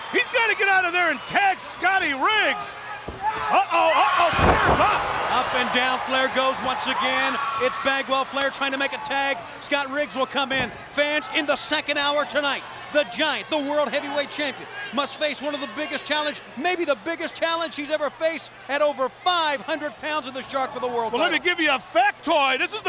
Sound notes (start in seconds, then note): 4.5 audience cheers